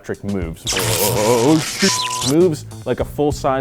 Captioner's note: electricity zapping